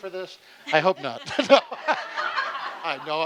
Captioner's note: laughing